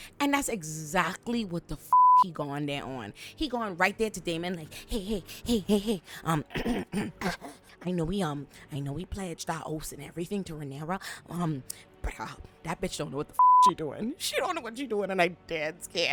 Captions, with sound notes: And that's exactly what the (beep) he going there on. He going right there to Damon like, "Hey, hey, hey, hey, hey, hey, "I know we pledged our oaths and everything to Renara, "but that bitch don't know what the (beep) she doing. "She don't know what she doing." And I'm dead scared.